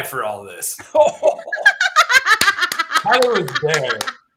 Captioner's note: laughter; clapping